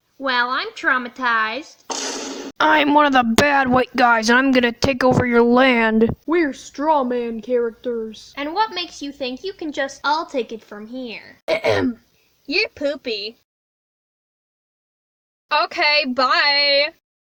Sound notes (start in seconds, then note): 1.9 instagram thud sound affect